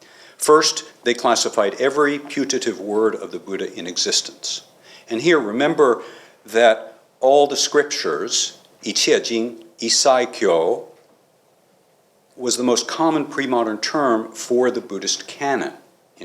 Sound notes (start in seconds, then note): 10.0 non-english